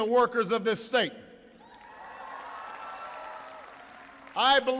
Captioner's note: applause